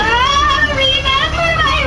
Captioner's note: terrified